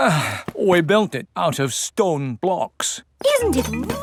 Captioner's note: sighs